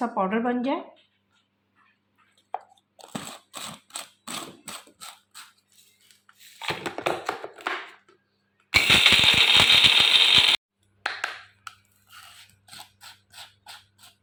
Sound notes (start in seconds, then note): 8.7 grinding